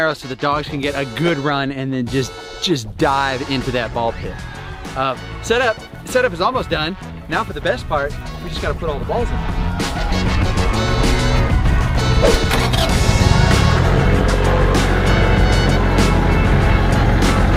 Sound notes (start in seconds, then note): 10.2 energetic music; 13.5 bulldozer motor running